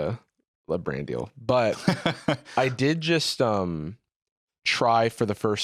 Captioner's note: laughs